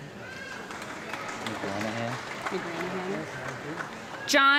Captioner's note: audience clapping